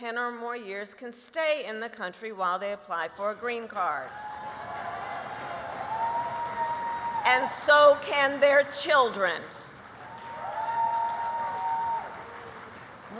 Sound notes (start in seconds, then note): 4.9 applause